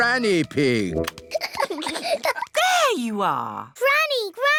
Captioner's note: peppa and george giggling